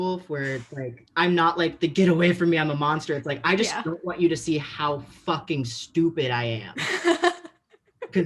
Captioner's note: laughs